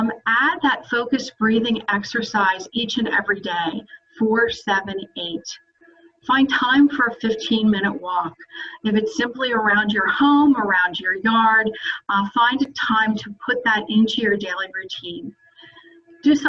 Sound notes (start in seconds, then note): none